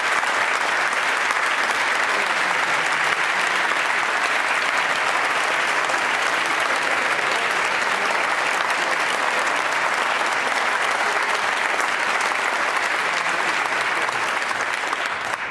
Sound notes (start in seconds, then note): 3.3 applause